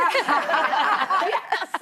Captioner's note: all laughing